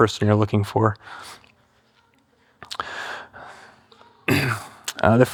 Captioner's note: breathing heavily